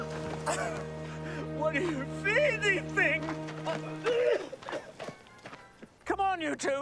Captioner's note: coughing